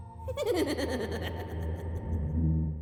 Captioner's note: creepy giggling